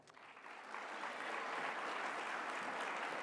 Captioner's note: applause